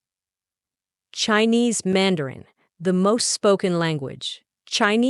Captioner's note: Mandarin